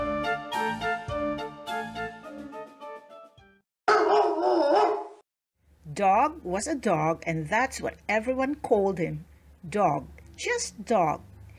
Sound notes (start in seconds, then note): 3.8 some barks